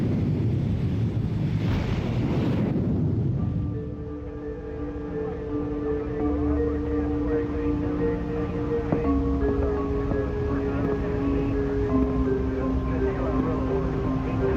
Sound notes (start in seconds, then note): 4.4 suspenseful music; 7.8 radios chattering